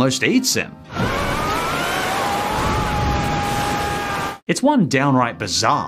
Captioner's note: Patchy screaming